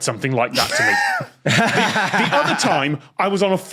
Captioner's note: guests laugh in turn